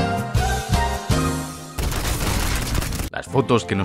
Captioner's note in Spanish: Disparos